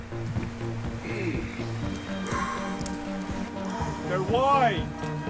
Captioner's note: upbeat music; groans; exhales